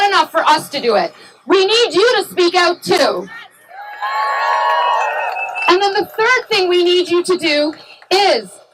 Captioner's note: cheering